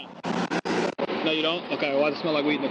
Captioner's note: passenger muttering